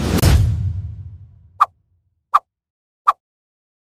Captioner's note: boom